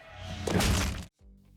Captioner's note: squelchy smash